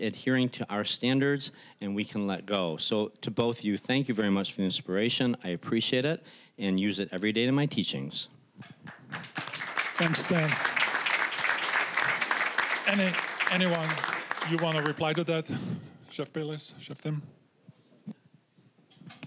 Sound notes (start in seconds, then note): 8.8 applause